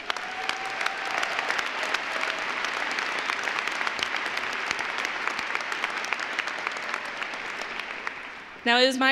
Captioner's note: applause